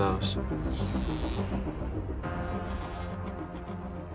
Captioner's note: time travel sounds